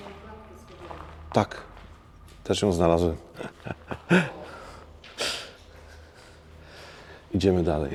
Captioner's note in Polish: parsknięcie